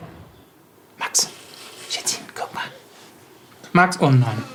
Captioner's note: whispers